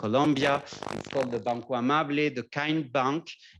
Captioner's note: non-english speech